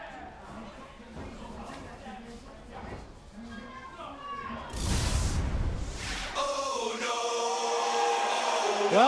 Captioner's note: crowd chatter